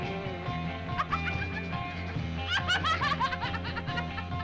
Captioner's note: Bunny laughing